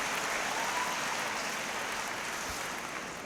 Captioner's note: applause